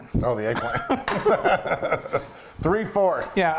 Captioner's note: laughing